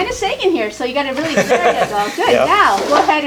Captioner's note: laughter